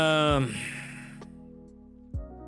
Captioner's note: sighs